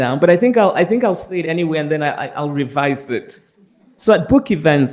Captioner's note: none